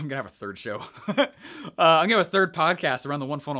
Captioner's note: chuckles